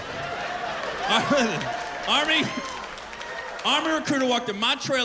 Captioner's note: laughter, cheers and applause